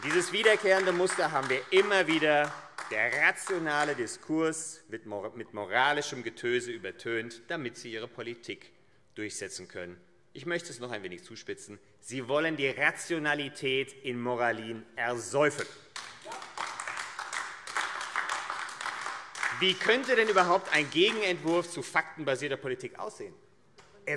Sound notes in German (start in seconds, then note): 15.9 Beifall AfD